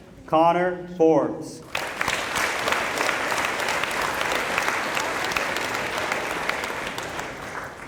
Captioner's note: applause